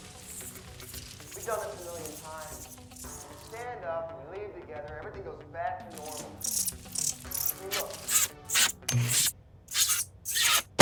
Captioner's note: mold creature squeaking